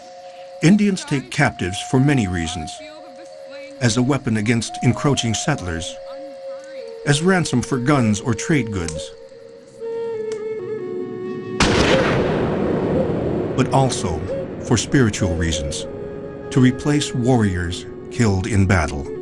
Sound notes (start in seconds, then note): 11.6 gun bangs